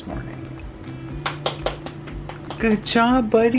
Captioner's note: clapping